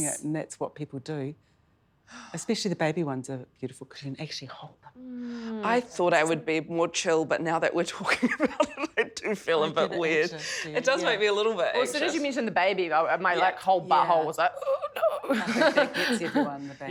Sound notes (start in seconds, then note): 8.9 chuckles; 14.6 chuckles